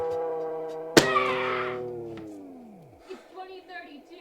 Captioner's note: person screaming